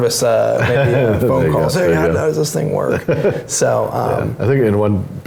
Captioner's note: laugh; laughs